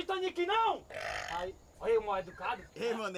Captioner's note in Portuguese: arroto